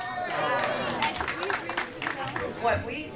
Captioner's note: applause